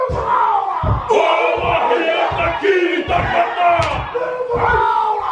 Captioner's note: performers continue Haka